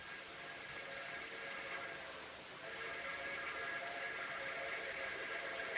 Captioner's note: train Whistle Blowing, Distant